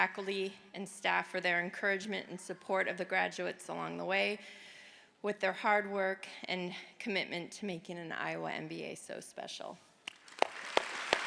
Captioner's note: cheers and Applause